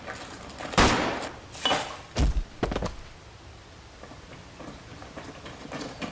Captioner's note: gunshot blasts; body thumps